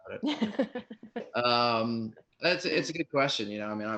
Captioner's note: laughing